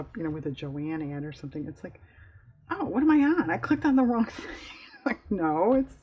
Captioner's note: laughs